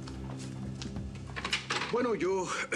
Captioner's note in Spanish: Ruido al salir ella